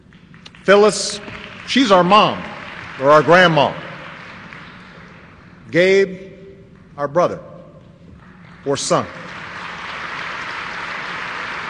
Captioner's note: applause